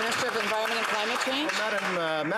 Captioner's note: applause